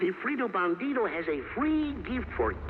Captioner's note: speaking in foreign language